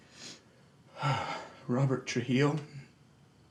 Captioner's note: sighs